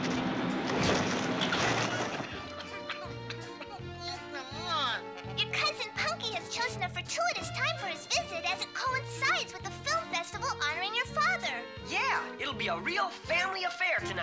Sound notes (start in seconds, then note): 1.8 coughing